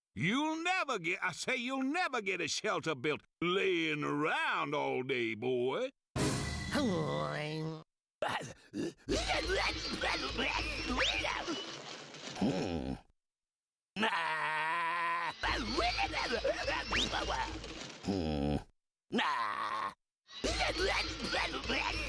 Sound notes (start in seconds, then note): 6.7 grumbles; 8.2 grunting; 15.5 grunting; 19.2 grunting